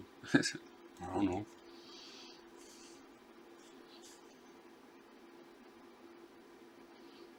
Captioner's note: silence